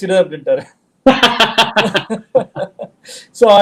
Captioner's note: laughs